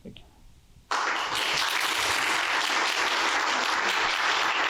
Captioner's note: applause